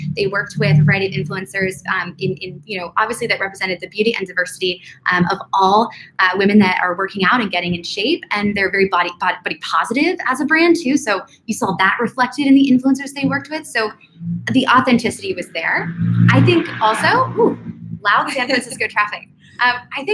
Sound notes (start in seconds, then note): 16.8 motorcycle revving; 18.2 laughing